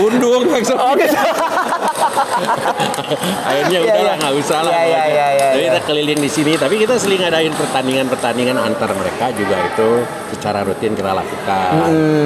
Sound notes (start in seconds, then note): 0.8 laughs